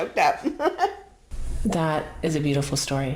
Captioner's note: laughs